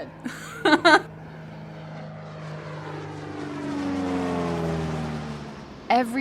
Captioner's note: plane passing